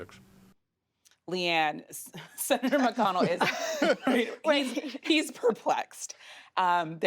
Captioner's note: laughter